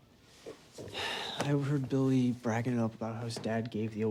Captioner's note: sighs